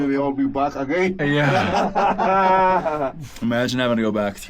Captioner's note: miners laugh